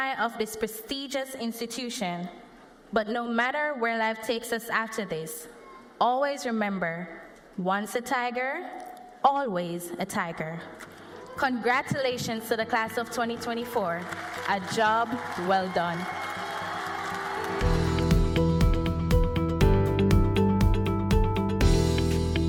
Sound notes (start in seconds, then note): 14.0 cheers and applause